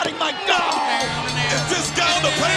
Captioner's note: crowd chatter